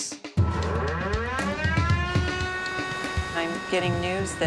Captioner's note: siren